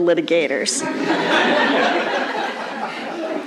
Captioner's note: laughter